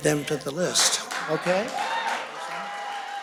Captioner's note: cheers and applause